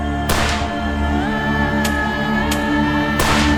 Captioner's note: dramatic music; gunshot